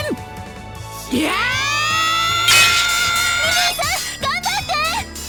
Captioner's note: war cry